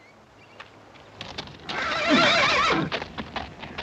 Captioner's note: horse whinnying